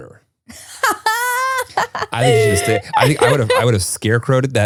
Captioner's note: laughs